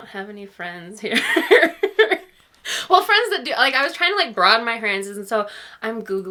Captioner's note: laughs